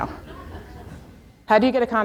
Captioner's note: audience laughs